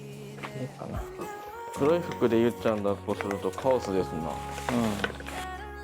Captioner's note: haha